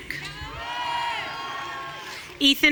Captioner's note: audience cheering